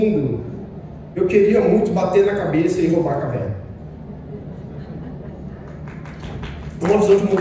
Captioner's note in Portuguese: palmas leves